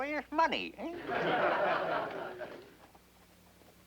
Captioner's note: all laughing